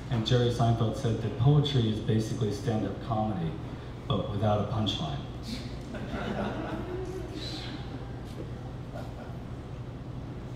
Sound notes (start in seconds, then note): 5.8 laughter